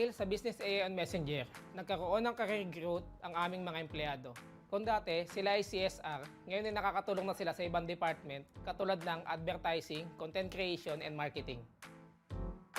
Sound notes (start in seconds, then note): 1.4 speaking another language